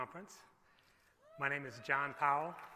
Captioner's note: cheering